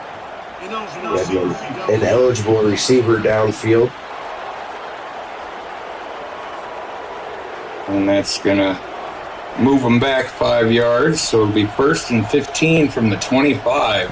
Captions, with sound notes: An eligible receiver downfield. (crowd cheering) And that's gonna move them back five yards. So it'll be first and 15 from the 25.